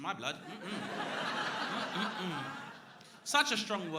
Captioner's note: crowd laughing